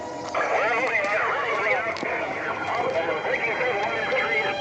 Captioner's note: various voices on police radio